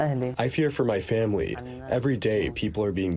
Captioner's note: through translator